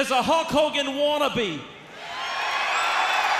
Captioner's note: crowd cheering